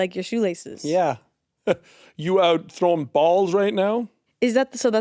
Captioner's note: chuckles